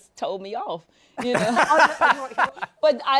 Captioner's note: laughs